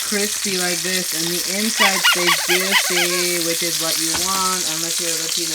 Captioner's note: squeaks